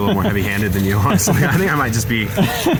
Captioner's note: laughing